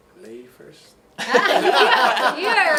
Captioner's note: laughing